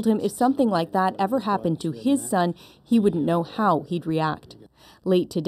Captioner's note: speaking French